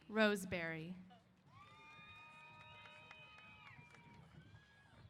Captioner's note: applause & Cheers